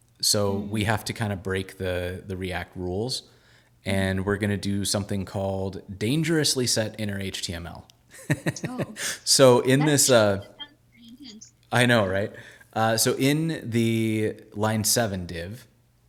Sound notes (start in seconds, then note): 8.2 laughing